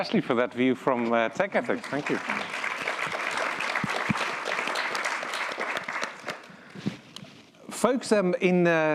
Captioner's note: applause